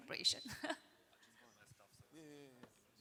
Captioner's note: chuckles